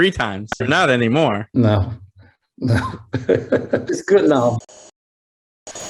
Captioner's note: laughing